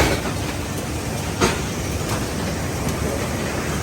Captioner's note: machine clunking